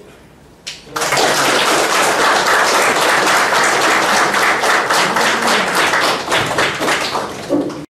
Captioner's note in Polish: oklaski